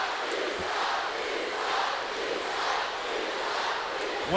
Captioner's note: crowd chants